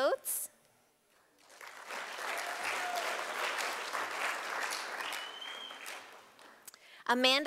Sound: sound of applause from audience

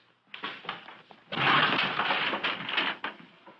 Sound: thudding

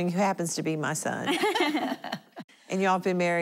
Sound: laughing

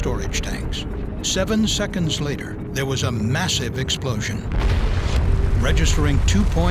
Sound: sound of explosion

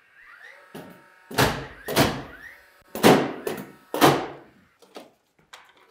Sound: nail gun thudding

